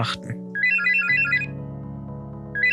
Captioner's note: phone rings